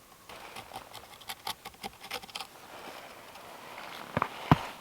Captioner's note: pencil scraping